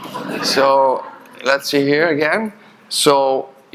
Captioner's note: audience chuckling